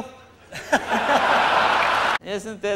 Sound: laughter

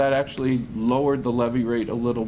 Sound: none

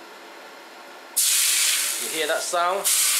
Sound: hot oil sizzle in ginger garlic bowl

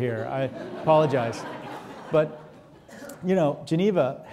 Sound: audience laughing

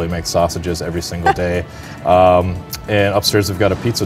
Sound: laughs

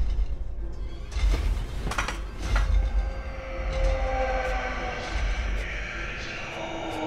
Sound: loud footsteps and noises

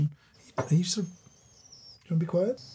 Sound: pot squeals softly

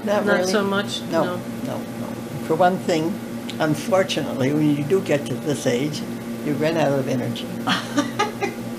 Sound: laughter

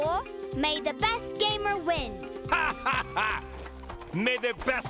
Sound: Tobor laughs evilly

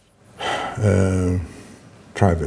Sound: sighs

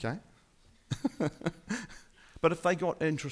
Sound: laughing

